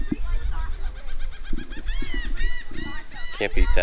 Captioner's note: birds calling